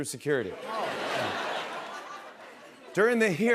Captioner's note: laughter